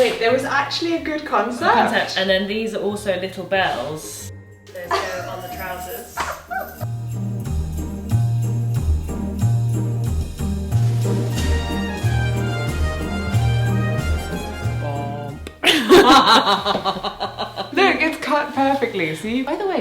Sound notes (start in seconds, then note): 7.3 upbeat music; 15.6 laughing